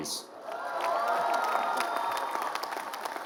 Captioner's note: applause